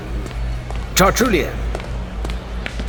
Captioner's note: approaching footsteps